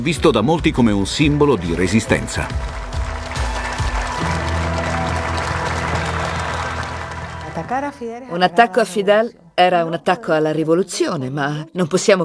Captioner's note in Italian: Applauso